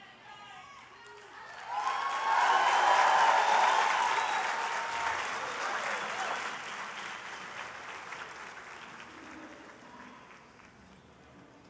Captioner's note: applause